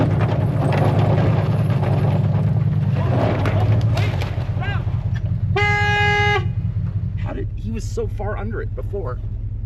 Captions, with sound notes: (truck clunks) Wait, stop! (horn honks) He was so far under it before.